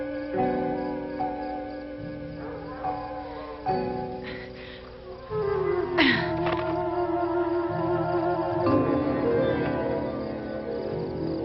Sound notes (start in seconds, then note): 5.9 Mary grunts